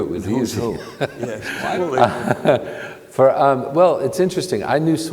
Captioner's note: panelists laughing